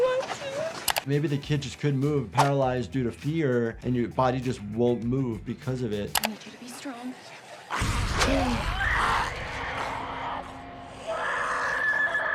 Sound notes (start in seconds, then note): 7.6 zombies snarling; 8.2 Sam screaming